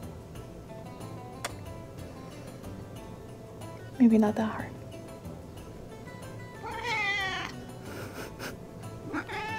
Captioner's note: kiss; mrow